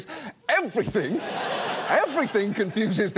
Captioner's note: audience laughs